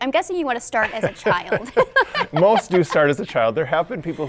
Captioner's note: both laughing